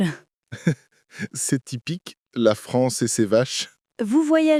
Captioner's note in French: rire